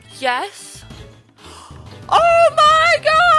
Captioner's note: gasp